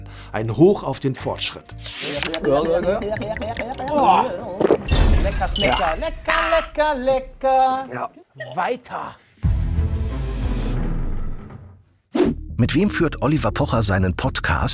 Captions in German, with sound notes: "Ein Hoch auf den Fortschritt." (Gluckernde Laute) Lecker, schmecker, lecker, lecker, lecker, lecker. Weiter! (Spannungsvolle Musik)